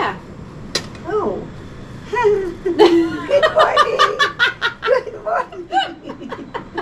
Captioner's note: giggles